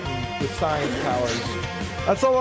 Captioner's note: laughs